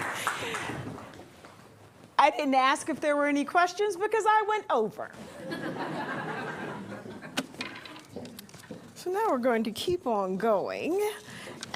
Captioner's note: applause